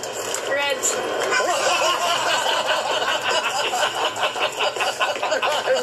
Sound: laughter

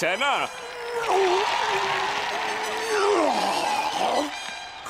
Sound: grunting

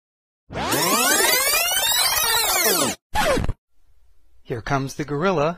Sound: sound of audio rewinding

